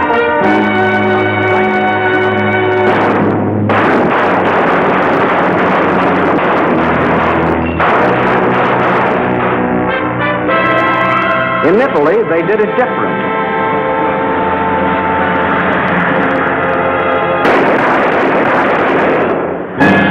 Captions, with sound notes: (gun firing) In Italy, they did it different. (gun firing)